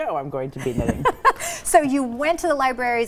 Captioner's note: laughing